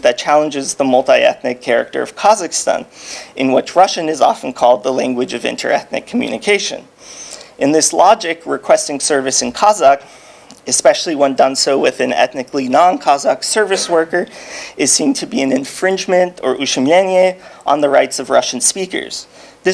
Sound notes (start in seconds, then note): 16.4 speaking foreign language